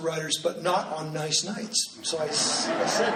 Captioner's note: laughing